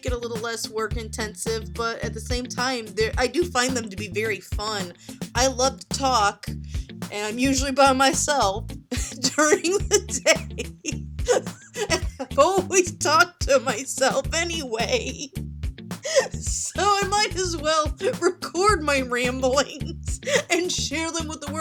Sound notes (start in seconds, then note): 8.4 laughing; 10.7 through laughs